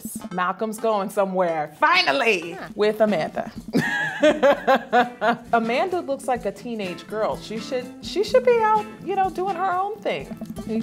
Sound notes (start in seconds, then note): 3.7 laughs